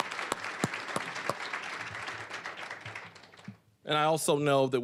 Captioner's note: applause, cheering; applause